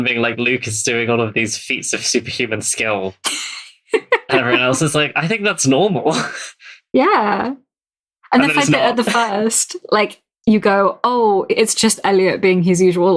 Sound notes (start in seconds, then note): 5.8 laughs